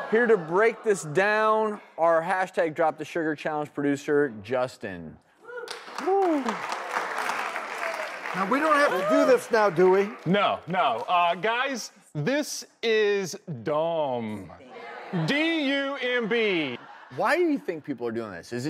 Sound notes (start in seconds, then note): 5.6 applause; 16.0 laughter